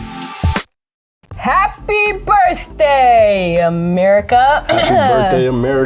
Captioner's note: upbeat muic; coughs